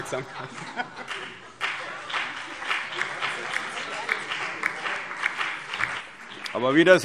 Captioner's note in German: Beifall